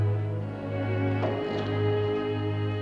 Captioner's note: clattering